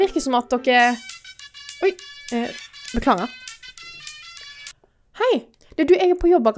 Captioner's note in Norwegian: Fridas telefon ringer